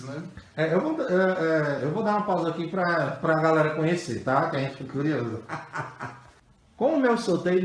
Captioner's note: laughs